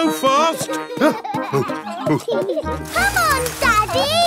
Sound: peppa and george laughing; panting

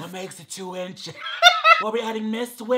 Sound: laughing

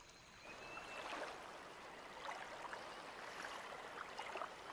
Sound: water sloshing

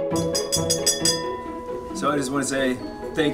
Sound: glass clinking

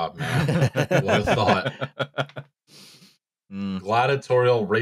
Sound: laughter; chuckles

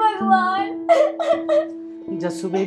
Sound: crying

